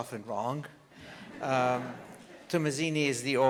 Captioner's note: audience laughs